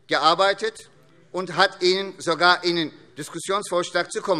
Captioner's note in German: none